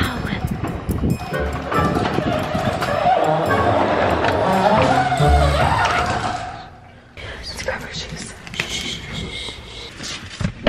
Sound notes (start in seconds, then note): 1.1 garage door squeaks